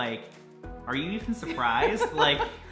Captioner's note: laughing